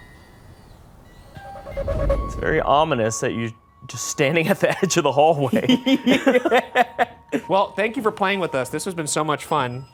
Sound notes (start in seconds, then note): 5.6 laughing